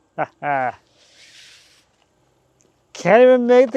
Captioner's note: laughs